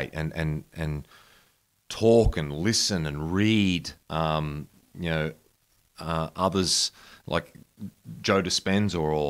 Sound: none

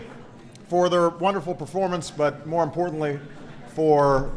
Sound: applause

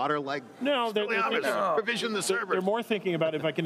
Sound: group speaking together

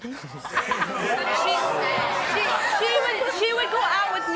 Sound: laughing

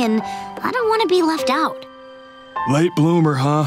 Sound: none

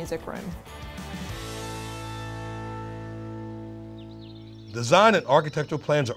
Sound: upbeat music; birds chirping

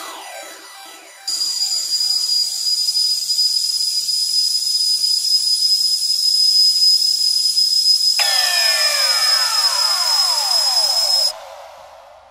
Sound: high pitched noise intensifies

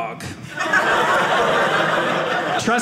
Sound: audience laughing

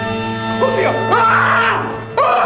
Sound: screaming

